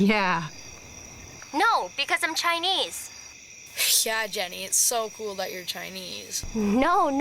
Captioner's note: sarcastic